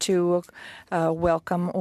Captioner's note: speaking French